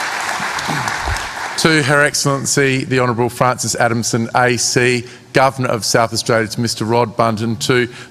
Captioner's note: applause